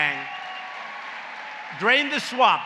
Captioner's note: applause